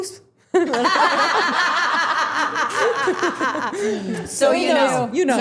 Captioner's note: everyone laughing